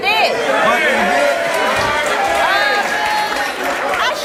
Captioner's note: audience exclaims in disbelief